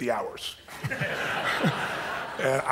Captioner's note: audience laughs